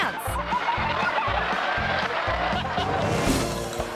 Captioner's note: people laughing